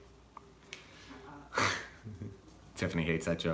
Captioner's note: both laugh